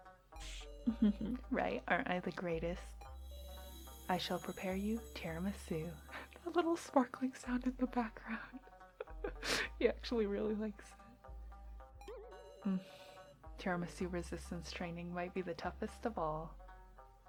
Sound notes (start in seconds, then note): 6.4 laughs; 8.9 giggles